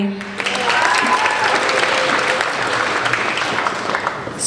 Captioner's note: applauding